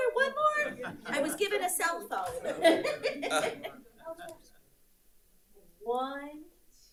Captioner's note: laughs